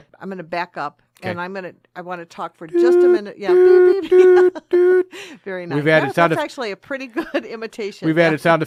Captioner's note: starts imitating an alarm ringing off